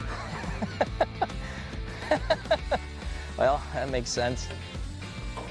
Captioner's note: laughing